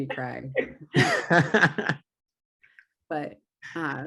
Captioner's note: laughing